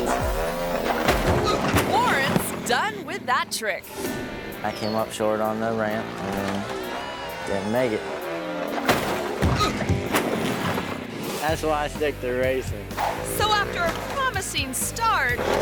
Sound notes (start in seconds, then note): 0.1 motorbike thuds; 0.1 motorbike revs; 1.0 thuds; 8.8 motorbike thuds; 8.8 thuds; 15.0 ramp clangs; 15.3 motorbike revs